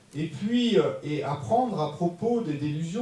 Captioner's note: French